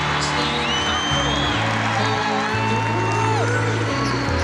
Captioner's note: cheers and applause